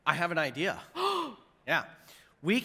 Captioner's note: gasps